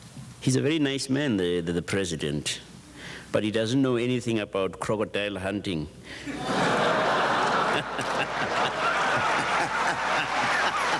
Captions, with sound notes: "He's a very nice man, the president, but he doesn't know anything about crocodile hunting." (audience laughs and applauds)